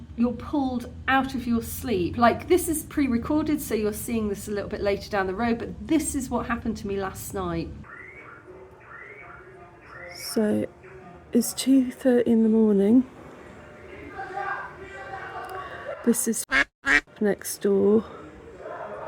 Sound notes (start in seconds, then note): 7.8 car alarm; 14.0 loud shouting; 16.8 duck quack